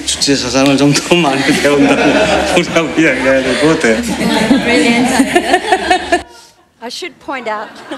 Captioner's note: foreign Language